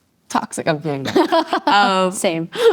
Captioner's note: chuckles